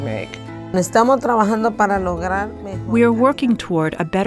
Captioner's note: speaking a foreign language